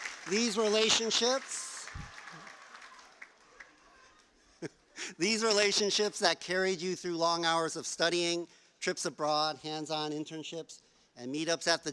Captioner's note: cheers and plause